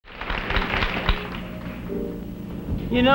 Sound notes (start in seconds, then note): 0.0 audience applause; 1.4 pensive piano music